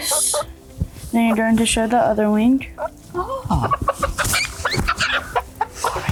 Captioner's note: clucking and screeching